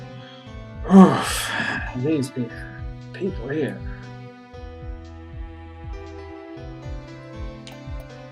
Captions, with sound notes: [sighing] Oof. These... people here...